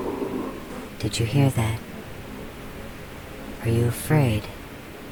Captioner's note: a guttural scream like concrete dragged over concrete